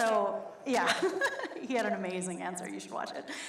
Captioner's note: laughs